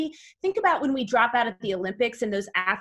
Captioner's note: none